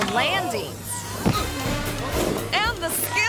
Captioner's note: skater thuds